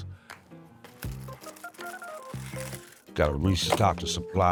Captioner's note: plastic crinkles